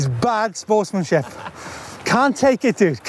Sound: laughs

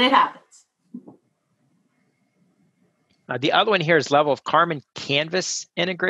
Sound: laugh

